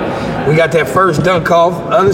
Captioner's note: none